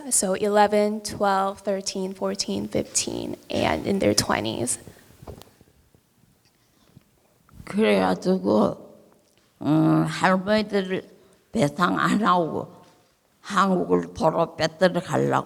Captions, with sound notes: so 11, 12, 13, 14, 15, and in their 20s. (speaking in foreign language)